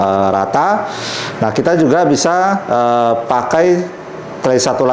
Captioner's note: inhale